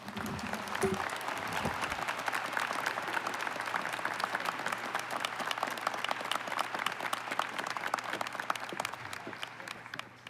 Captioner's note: applause